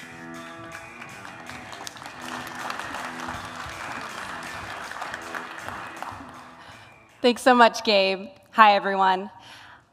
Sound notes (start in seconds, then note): 0.1 funky music; 0.5 applause